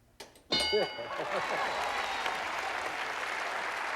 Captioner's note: applause